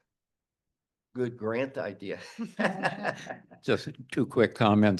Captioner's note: chuckles